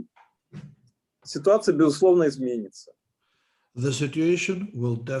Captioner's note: speaking Russian language